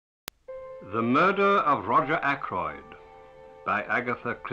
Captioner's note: 1930's voice